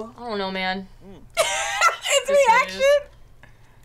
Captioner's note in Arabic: يضحك